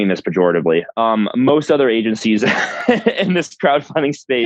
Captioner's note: laughs